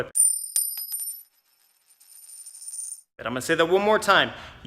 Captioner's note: coin clanging